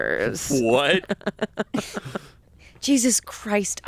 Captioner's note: laughs